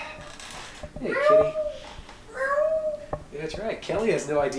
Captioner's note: imitates meowing